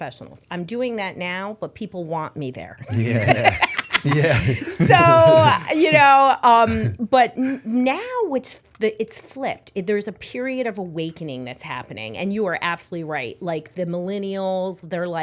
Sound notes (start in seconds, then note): 2.9 laughter